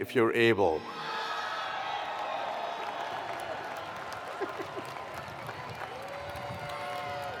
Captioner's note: attendees cheering; attendees applauding